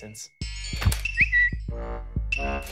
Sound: comedic music; whistling sound

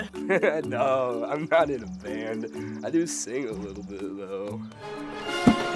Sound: chuckles

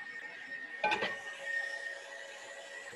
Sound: clanking; mixer whirring

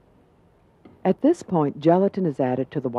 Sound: voiceover

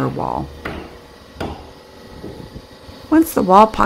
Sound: hammering

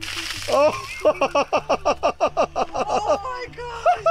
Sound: laughs

